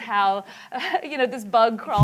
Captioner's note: laughter